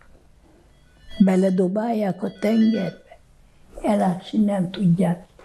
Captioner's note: phone ringing